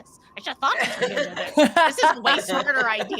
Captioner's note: all laughing drowns out 'Neb